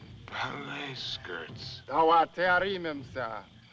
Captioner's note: man Speaking African Language